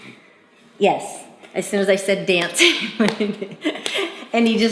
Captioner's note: laughs